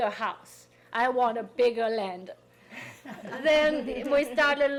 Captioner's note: people laughing